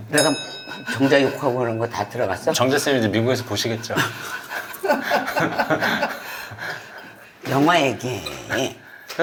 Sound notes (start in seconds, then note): 3.8 chuckles